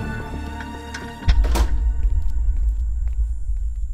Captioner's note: Door closes